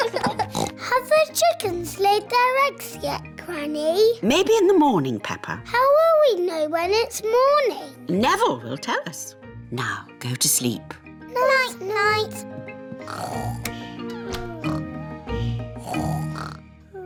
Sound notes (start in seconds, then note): 0.0 both giggling; 0.4 oinks; 13.2 both snoring